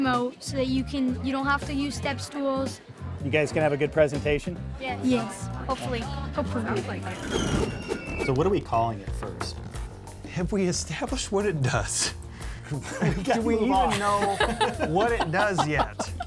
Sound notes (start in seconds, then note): 6.3 wind whooshes; 6.6 wheel screeches